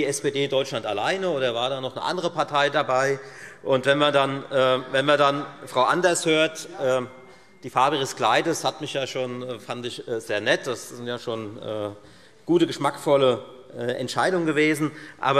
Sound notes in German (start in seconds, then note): 3.4 Zurufe SPD